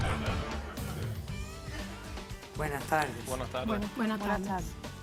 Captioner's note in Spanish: Risas del público